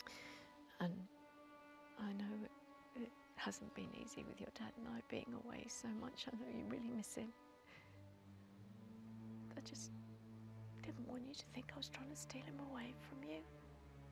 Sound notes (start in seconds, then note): none